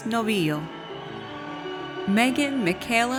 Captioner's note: audience cheers